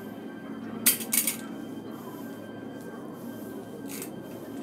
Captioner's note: gun clatters